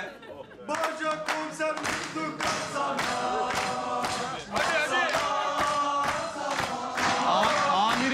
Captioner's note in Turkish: Hep bir ağızdan